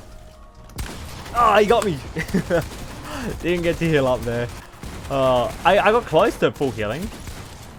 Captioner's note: laughs